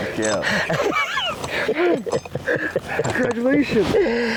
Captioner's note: laughing